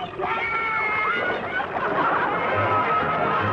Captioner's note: both cheering; light orchestral music